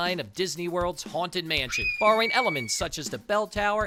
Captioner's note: high pitch screaming